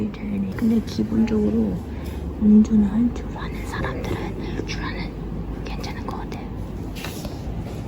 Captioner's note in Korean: 속닥